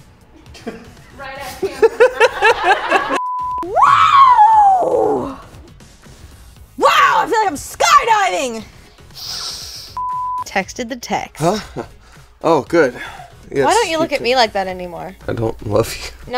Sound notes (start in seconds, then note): 1.4 laughing; 1.5 all laughing; 9.0 inhales